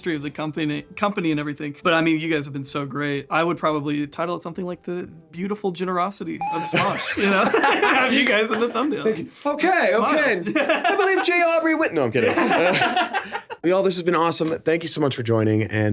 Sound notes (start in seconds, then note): 12.2 laughing